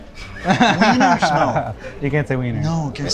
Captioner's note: laughing